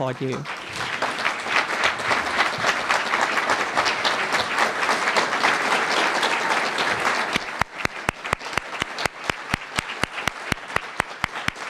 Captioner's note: applause